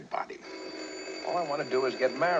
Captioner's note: phone rings